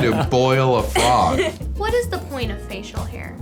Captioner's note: laughing